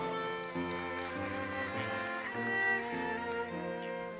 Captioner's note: audience applauses